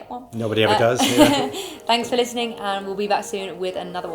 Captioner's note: laughs